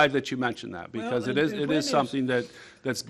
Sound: multiple voices

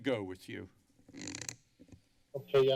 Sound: mic crackling

